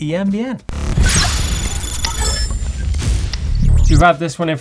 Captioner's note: frenzied electric buzzing